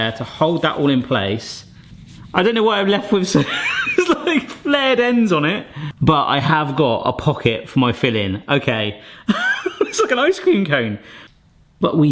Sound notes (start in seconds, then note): 9.2 laughs heartily